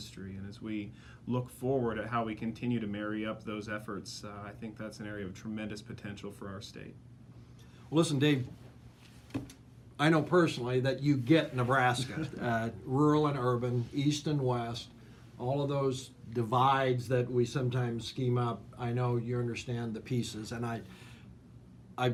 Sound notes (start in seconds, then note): 11.9 laughs